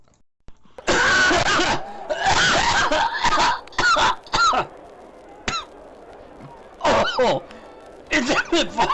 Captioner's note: coughing